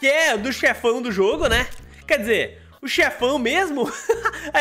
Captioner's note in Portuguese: risos